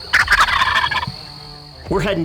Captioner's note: turkey gobbling